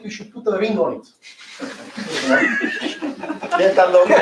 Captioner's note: laughter